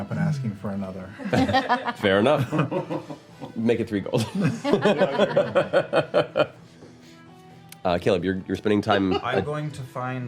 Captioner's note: laughs